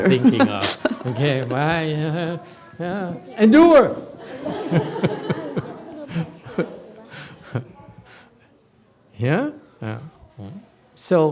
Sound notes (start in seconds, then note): 3.6 laughs, audience laughs